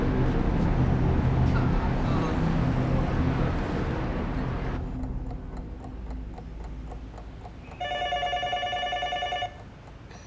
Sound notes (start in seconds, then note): 4.8 clock ticking; 7.8 telephone ringing